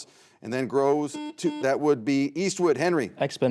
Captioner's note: buzzer buzzes